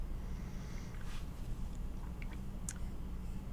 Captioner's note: none